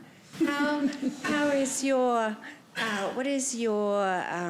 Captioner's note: chuckles